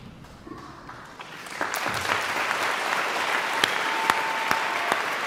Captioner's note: audience applauding